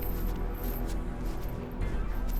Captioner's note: footsteps